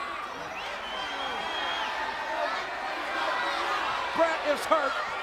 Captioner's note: audience cheers